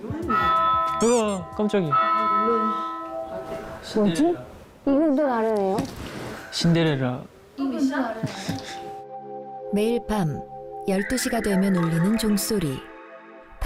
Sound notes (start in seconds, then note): 0.3 The bell rings at TREASURE CASTLE